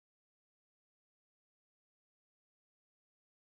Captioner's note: none